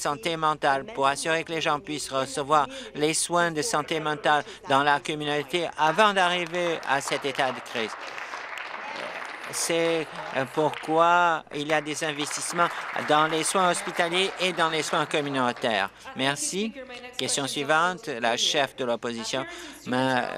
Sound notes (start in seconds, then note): 9.4 applause; 15.0 applause